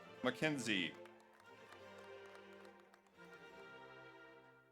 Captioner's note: audience applauds